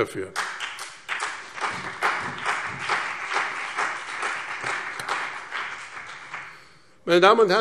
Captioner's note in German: Beifall BÜNDNIS 90/DIE GRÜNEN und CDU